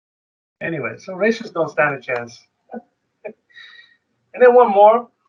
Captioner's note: chuckles